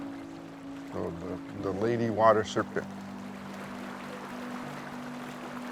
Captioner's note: speaking foreign language; water burbling